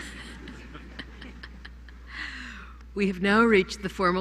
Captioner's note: laughter